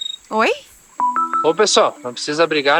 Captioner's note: mobile phone ringing